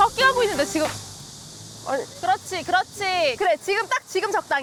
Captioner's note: surprisingly, the cicada noise dies down